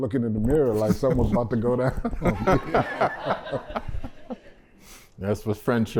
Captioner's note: laughter